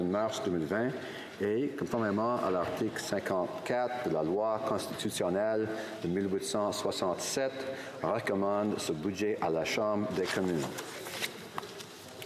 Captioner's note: speaking in french